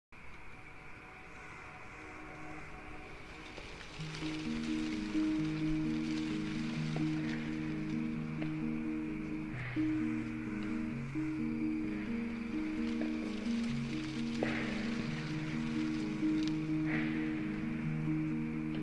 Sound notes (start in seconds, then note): none